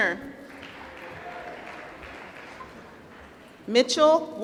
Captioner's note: applause